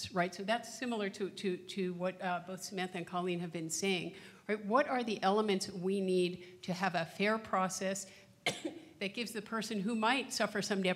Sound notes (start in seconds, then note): 8.4 coughs